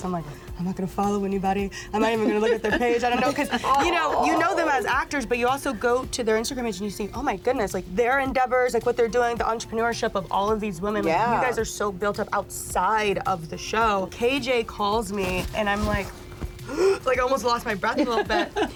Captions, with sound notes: I'm like, I'm not gonna follow anybody. I'm not even gonna look at their page. I don't know. 'Cause you know them as actors, but you also go to their Instagram page and you see, oh my goodness, their endeavors, what they're doing, the entrepreneurship of all of these women. You guys are so built up outside of the show. KJ calls me. And I'm like, [GASP], like almost lost my breath a little bit.